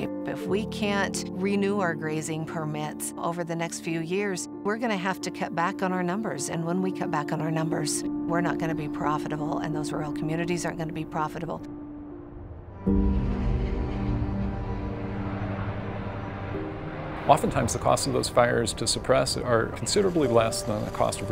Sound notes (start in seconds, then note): 13.2 airplane roars